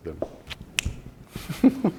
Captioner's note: fingers snapping; chuckling